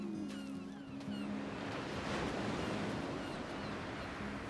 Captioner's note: waves crashing, seagulls cawing